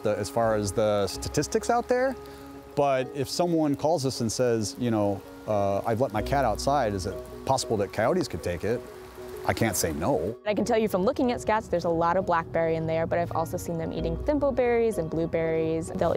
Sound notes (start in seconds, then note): none